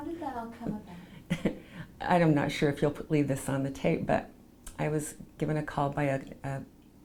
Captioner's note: laughs